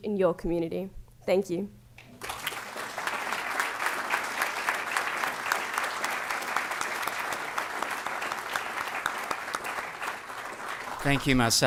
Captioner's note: applause